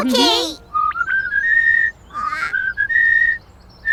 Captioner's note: melodic chirping